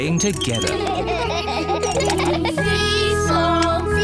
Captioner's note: all laugh